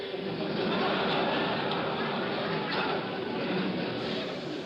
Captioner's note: laughter